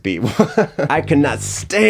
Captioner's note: chuckling